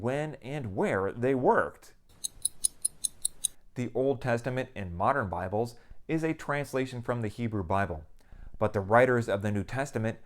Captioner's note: clock ticking